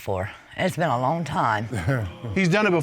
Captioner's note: chuckles